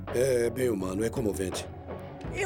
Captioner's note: voiceover